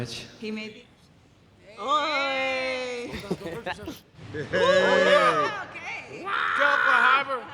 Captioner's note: judges scream excitedly